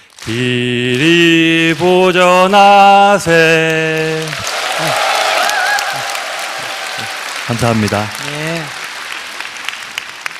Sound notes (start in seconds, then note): 3.9 audience cheer and applause